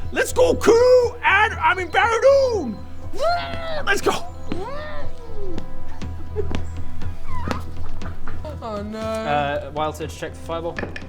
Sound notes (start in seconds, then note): 4.5 mmmrgh; 6.2 mammoth giggles